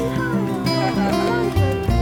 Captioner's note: haha